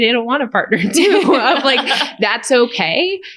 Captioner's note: laughter